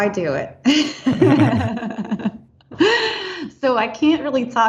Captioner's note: laughing